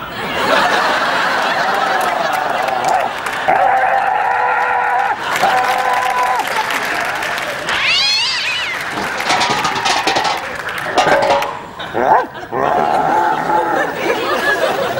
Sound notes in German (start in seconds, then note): 1.6 Knurren und Bellen; 7.6 Katzen heulen, Dosen klappern; 11.8 Gebell